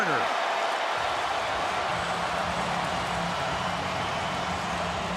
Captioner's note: cheering